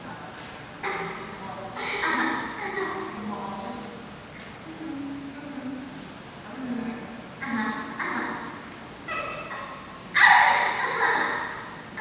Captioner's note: The cacophony of STEPHANIES continues to respond